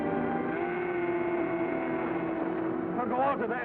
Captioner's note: cow moos in distress